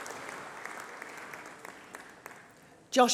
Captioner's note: applause